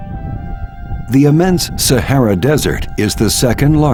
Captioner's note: voiceover